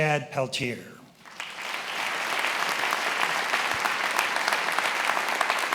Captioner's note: attendees applauding